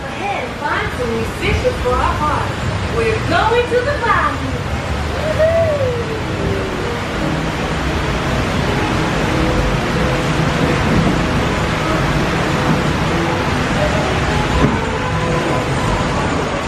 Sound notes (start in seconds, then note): 7.6 water cascading